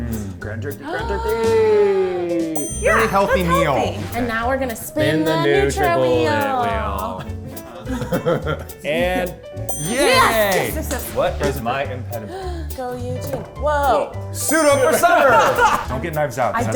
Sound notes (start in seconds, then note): 2.6 gasps